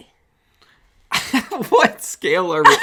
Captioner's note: chuckles